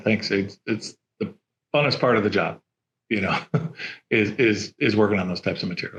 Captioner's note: chuckles